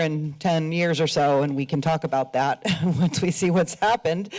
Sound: laughs

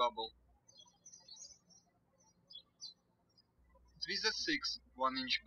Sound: birds chirping

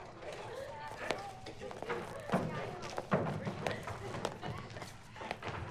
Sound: group chatters excitedly

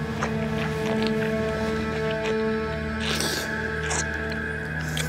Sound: slurping

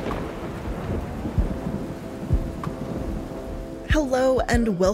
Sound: thunder rumbles

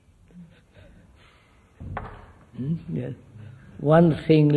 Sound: laughs

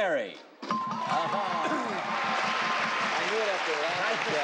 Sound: dinging

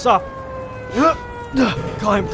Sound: grunt

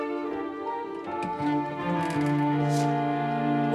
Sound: none

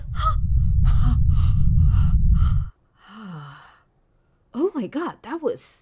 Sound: sighs

